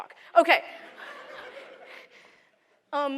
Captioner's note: laughter